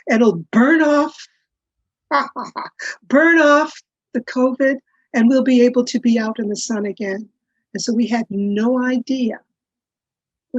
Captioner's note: laughs